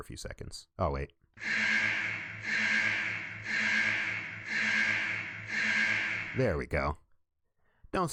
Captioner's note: siren blares